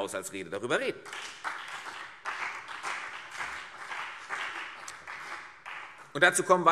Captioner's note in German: Beifall CDU und BÜNDNIS 90/DIE GRÜNEN